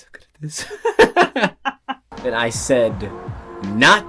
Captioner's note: both laughing